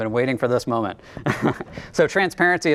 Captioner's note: chuckles